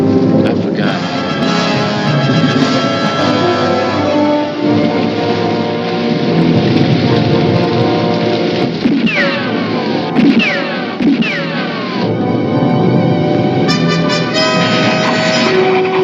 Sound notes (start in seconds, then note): 8.6 gunshots